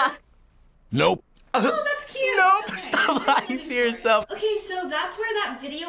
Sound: laughs

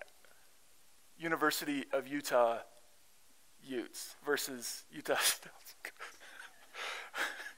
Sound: chuckles

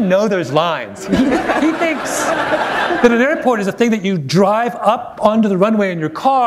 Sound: laughter

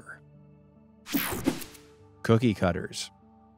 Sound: image whooshing

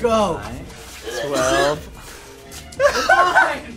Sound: gagging

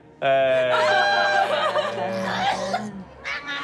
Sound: cheering; baby talk

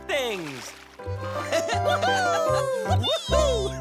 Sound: cheering and laughing

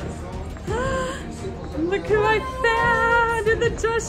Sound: gasping

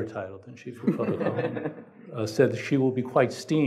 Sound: laughing

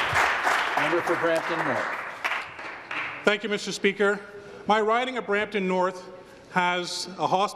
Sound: applause

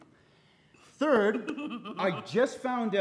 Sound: giggles

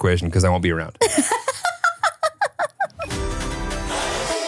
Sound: laughs; upbeat pop music

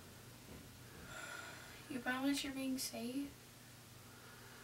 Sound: sighs

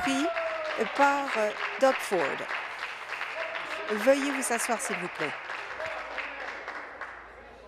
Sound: applause

